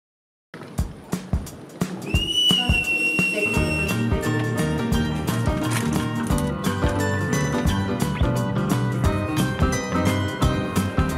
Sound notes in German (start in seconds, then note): 2.0 Pfiff; 4.6 Lockere Musik